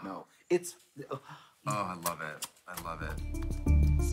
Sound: kissing sounds

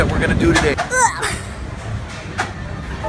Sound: grunting

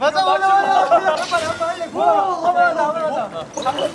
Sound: shouting in the water

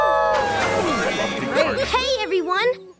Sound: howling

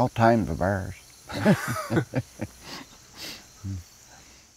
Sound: laughing

